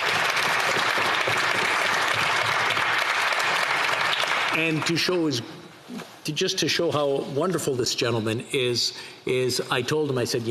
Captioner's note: applause